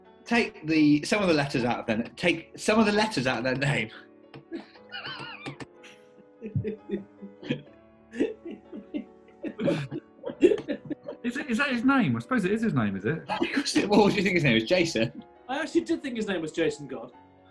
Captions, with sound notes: ...take the some of the letters out of their name... [GIGGLING] Is that His name? I suppose it is His name, is it? [LAUGHING] Of course it is, why, what do you think His name is, Jason? I actually did think his name was Jason God.